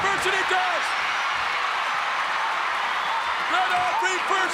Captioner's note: audience cheering